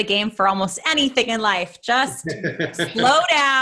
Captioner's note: chuckles